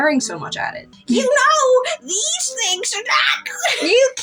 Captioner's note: laugh